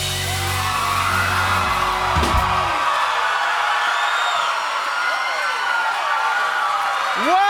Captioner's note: cheers and applause